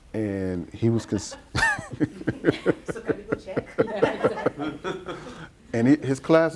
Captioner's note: laughs